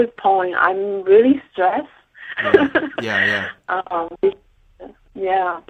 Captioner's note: laughing